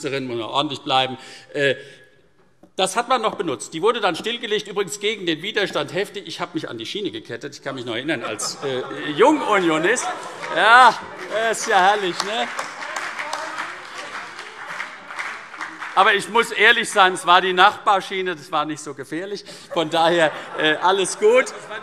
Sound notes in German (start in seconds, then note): 10.4 Heiterkeit und Beifall CDU und BÜNDNIS 90/DIE GRÜNEN